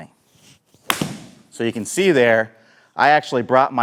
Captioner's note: club smacking